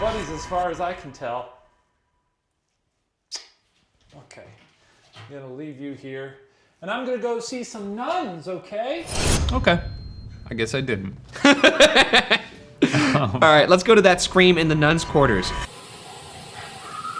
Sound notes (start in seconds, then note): 11.3 laughs